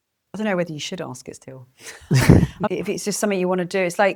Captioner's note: laughs